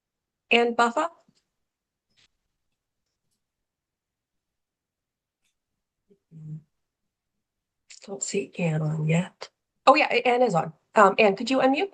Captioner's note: pause